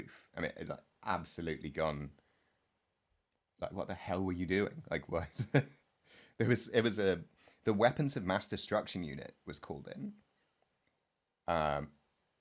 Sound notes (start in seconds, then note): 5.3 laugh